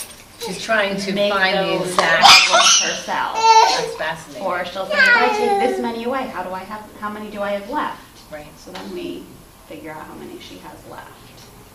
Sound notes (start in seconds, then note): 2.3 child yells